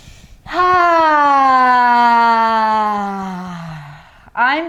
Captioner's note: sighing deeply